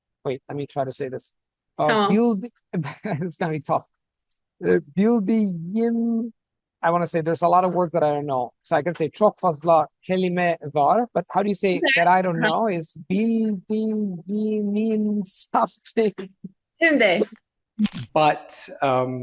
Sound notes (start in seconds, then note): 12.7 speaking Turkish